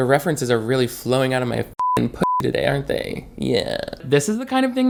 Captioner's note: beep